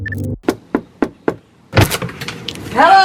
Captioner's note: knocking